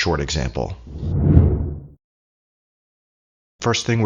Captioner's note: air whooshing